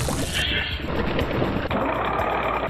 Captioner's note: food sizzling; fork scraping; food processor whirring